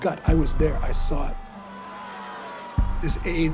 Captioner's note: protesters shouting